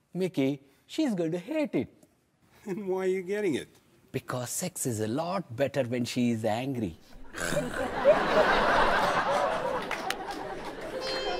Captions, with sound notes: Mickey, she's gonna hate it. Then why are you getting it? Because sex is a lot better when she's angry. (growls) (audience laughs)